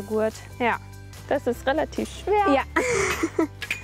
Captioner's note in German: lacht